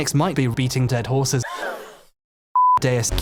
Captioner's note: crowd gasps in shock